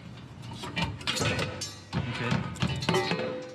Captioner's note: tools clanging